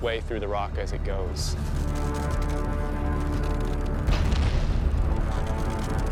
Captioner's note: rock grinding